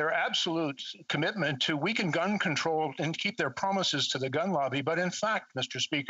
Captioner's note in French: voix de l'interprète